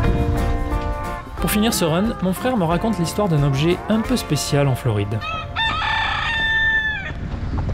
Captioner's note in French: Coq qui chante